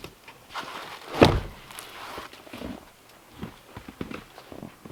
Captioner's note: log thumps